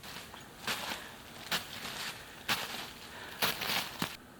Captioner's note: more footsteps in the snow XD